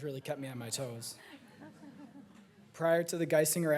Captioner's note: audience laughing